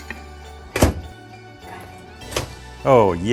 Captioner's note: machine clanks